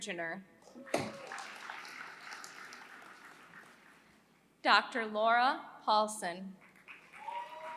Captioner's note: applause; applause